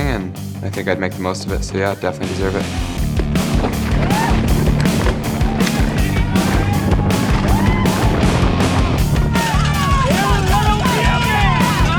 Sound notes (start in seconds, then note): 5.0 spectators cheering; 5.0 upbeat music